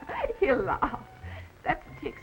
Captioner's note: laughing